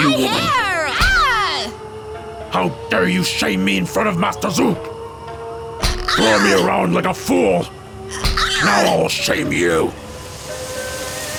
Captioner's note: slap